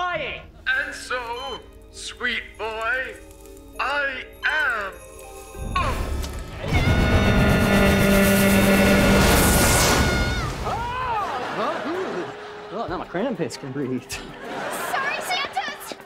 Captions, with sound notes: And so, sweet boy... I am. [grunting] [screaming] [screaming] Huh? Ah, now my Krampits can breathe. Sorry Santas!